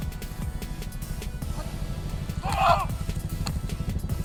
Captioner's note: yells